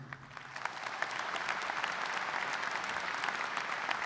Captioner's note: audience applauds